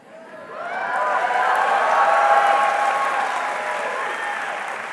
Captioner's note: audience cheering